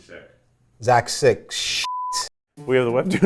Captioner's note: beep